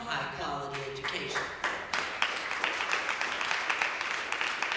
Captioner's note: applause